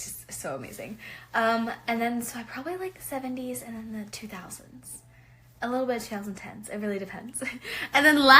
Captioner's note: cute laugh